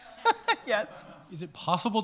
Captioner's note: laughs